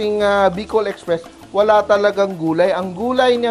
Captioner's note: sizzle